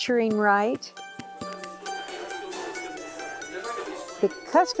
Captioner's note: string instrumental music; chattering